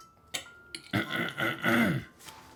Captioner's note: clears throat